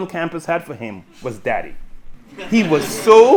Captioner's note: audience laughing